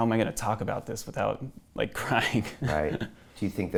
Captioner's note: laughs